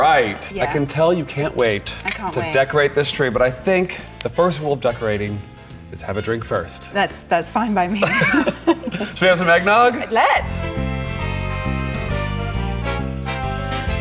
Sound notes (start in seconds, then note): 8.0 both chuckling; 10.3 bright music